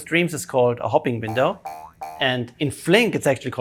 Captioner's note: bouncing spring